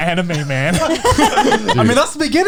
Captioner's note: all laughing